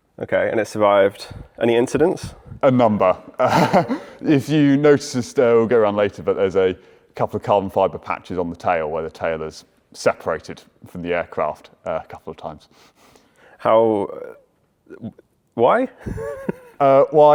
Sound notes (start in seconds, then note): 3.4 chuckles